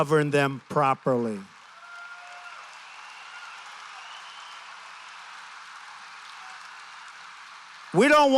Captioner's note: applause